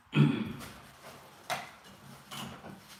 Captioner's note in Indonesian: berdehem